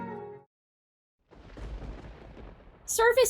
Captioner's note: sounds of storm approaching